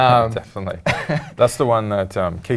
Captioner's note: laugh